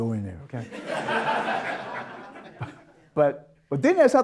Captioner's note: audience Laughter